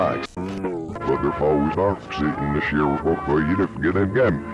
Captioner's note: audio warbling